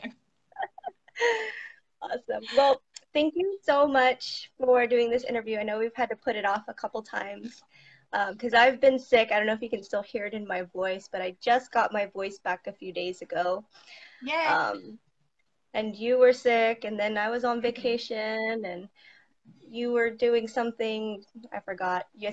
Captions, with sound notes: (both laughing) - Awesome, well, thank you so much for doing this interview. I know we've had to put it off a couple times, 'cause I've been sick, I don't know if you can still hear it in my voice but I just got my voice back a few days ago. And you were sick, and then I was on vacation, and you were doing something, I forgot.